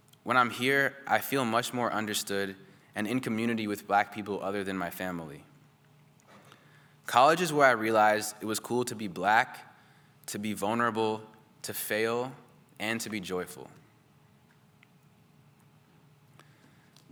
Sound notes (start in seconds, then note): none